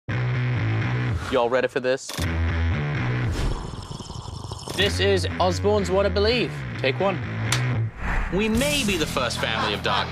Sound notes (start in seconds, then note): 3.4 slurps